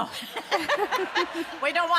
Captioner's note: audience laughs